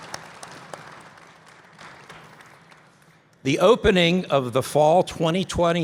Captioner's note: applause